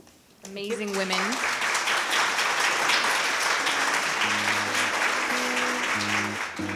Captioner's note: people clapping; upbeat music